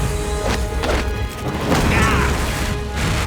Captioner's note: grunting